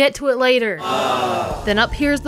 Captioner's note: Wii Sports "Awww"